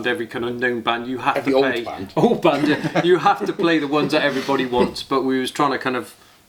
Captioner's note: laughing